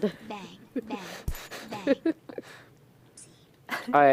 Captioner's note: laughter